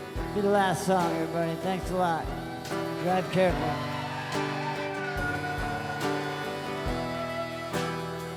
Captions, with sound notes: 'll be the last song, everybody. Thanks a lot. Drive carefully. (crowd cheers)